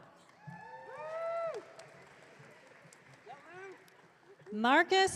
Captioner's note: audience cheering